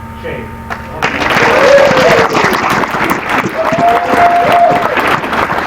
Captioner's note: applause